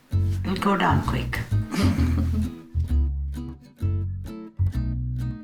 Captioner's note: everyone chuckling